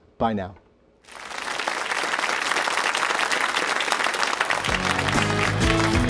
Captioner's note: applause